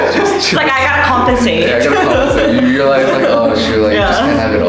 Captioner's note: all laughing